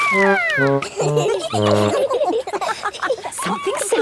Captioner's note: all laughing